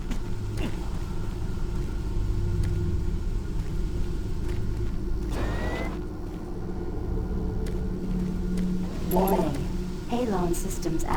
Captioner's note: grunting